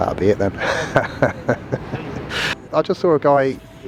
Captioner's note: laughs